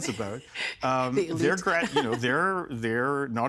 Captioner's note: laughing